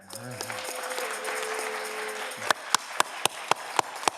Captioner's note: audience cheering